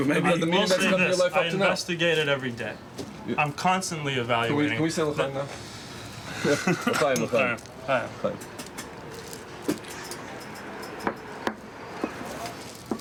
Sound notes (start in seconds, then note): 6.3 all chuckling; 7.6 speaking in foreign language